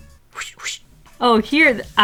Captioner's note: woosht woosht